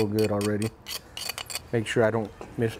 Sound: glass rasping

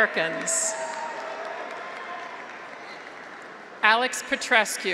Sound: graduates cheer; audience applauds

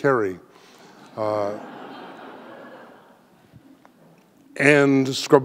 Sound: audience laughing

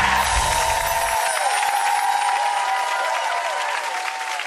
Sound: audience cheering

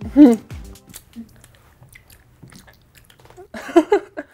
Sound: chewing; laughter

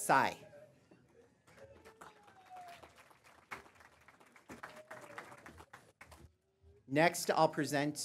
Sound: applause

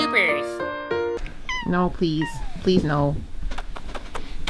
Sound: classical music; Meemers meowing adorably; making kissy noises

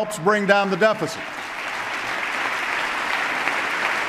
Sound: applause

